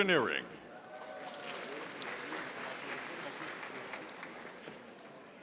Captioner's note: audience applauding